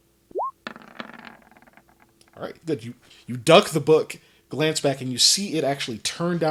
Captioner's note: dice roll